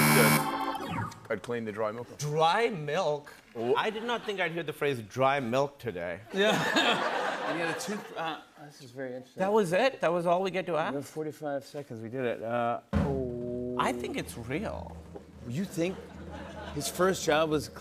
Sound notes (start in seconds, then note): 6.3 laughter